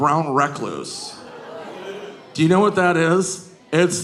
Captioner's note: audience groaning